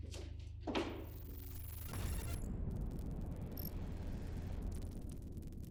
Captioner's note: static buzzing